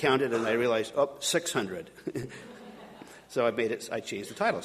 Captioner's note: audience laughing